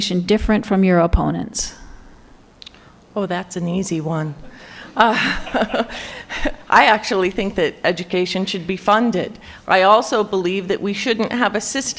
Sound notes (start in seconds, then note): 5.0 chuckles